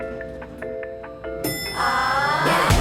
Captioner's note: lift Dings